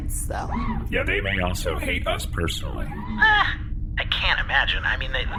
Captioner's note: disbelieving noise